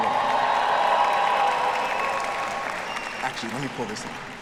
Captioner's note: students cheering